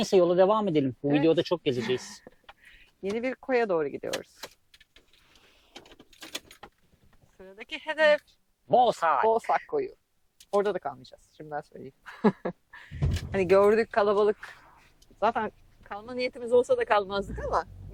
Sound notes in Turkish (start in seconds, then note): 12.0 kahkaha